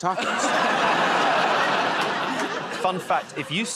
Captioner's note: laughter